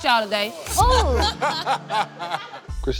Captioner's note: laughter